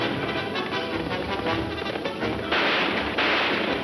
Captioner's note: several gunshots